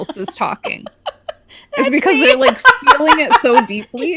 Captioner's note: laughs